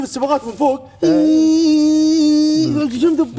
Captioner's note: buzzing sound